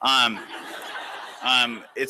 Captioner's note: laughter